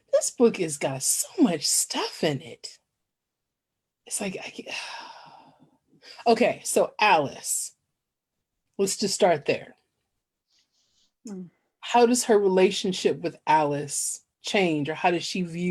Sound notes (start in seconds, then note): 4.8 sigh